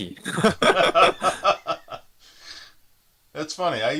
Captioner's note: both laughing